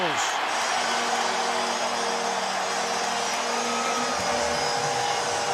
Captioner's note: cheering